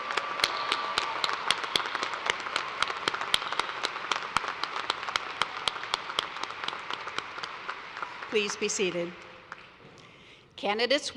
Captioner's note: cheers and applause